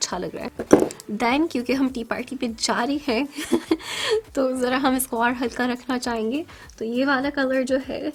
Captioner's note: laugh